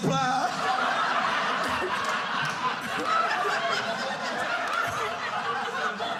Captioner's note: audience laughing